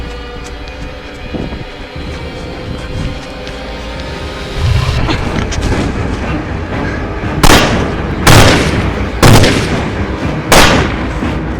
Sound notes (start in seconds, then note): 4.5 Demonic growl, Mollie grunts; 7.4 gunshots